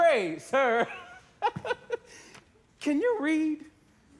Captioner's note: laughs